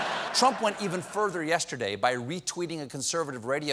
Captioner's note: laughter